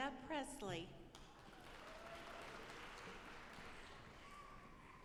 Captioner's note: audience applauding